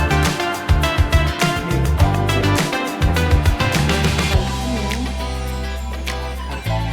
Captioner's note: laughs